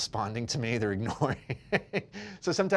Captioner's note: laughs